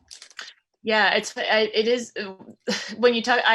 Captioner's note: sighs